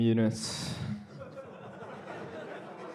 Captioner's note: laughter